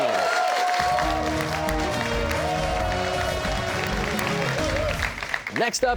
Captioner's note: cheers and applause